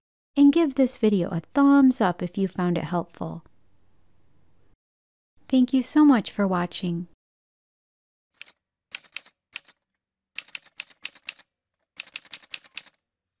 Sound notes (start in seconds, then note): 8.3 typewriter sounds